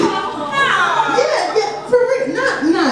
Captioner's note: audience yells